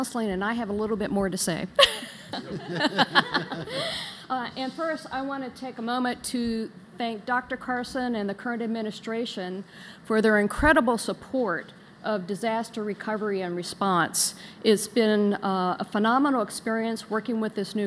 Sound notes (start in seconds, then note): 1.8 laughter